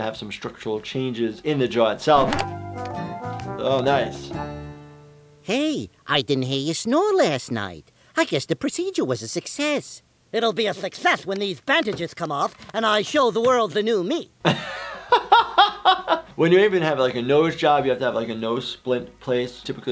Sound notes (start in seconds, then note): 14.6 laughs